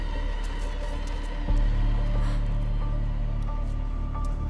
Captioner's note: gasps